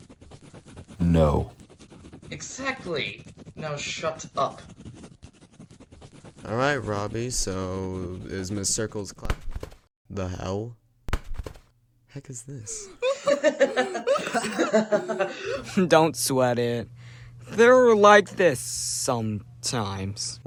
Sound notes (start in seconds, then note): 12.8 Oliver and Edward make the world's most exaggerated laughs over flying paper